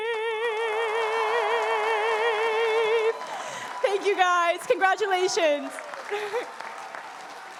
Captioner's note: applause